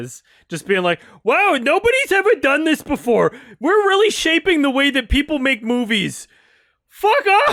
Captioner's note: mocking